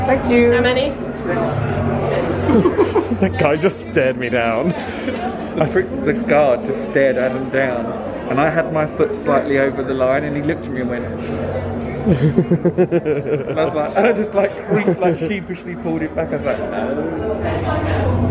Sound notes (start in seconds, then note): 12.0 laughs